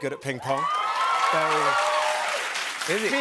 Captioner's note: cheers and applause